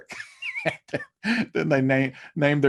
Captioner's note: laughs loudly